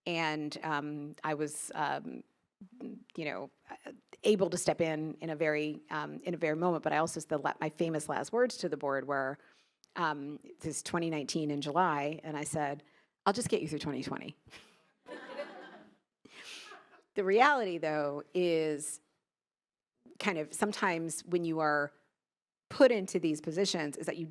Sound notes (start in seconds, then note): 15.1 attendees laughing; 15.1 chuckles